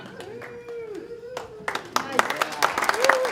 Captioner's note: applause